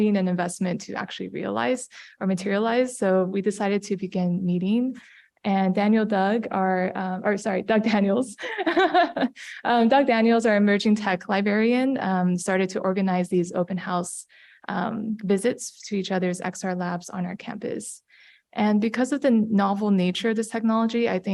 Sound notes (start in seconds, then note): 8.4 laugh